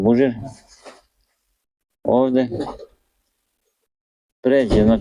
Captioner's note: coughs